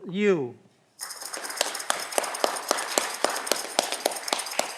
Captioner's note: audience clapping